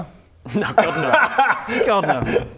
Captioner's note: nice-try laugh